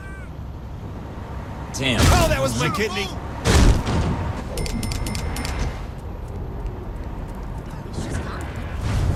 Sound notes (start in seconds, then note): 4.7 cash register dings